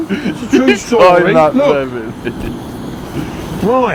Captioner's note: laughs